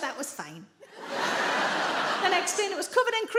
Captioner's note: audience laughs